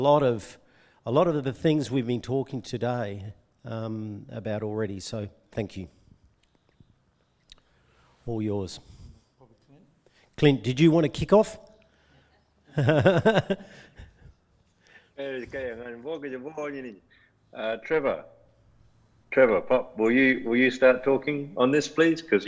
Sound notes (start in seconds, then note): 12.7 laughs